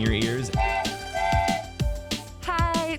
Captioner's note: train whistle